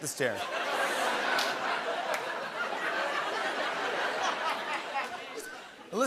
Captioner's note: laughter